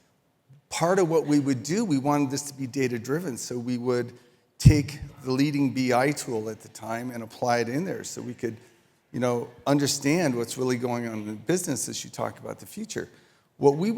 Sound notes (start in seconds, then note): none